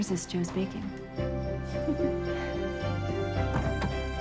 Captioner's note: chuckling